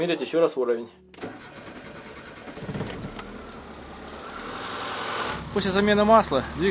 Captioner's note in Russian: слышен звук работающего двигателя